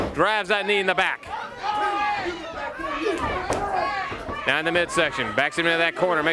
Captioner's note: crowd cheering